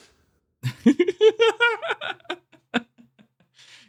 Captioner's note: laughs